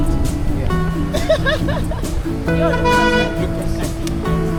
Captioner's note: laugh